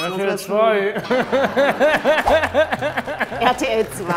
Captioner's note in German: Lachen